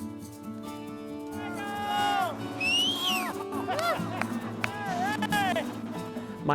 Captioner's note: cheers and applause